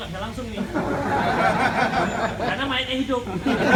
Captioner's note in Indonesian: Jama'ah tertawa; Jama'ah tertawa lagi